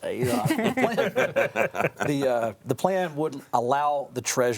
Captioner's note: panel chuckling